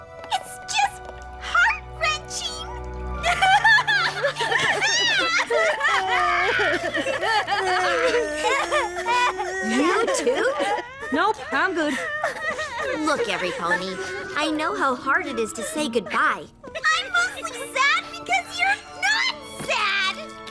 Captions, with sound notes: It's...just...heart-wrenching! [crying] You, too? Nope. I'm good. Look, everypony, I know how hard it is to say goodbye-- I'm mostly sad because you're NOT sad!